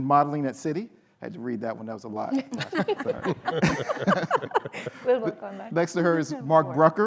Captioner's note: laughter